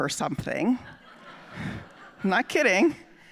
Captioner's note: audience laughing